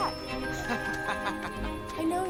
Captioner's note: man laughing